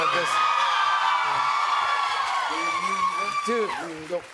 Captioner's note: cheers and applause